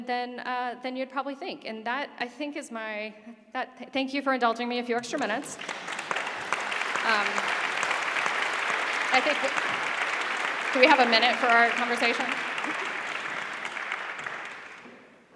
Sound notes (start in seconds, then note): 5.0 applause